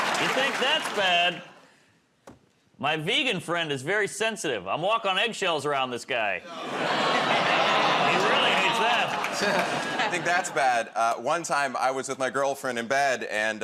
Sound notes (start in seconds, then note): 6.5 audience "Aw"s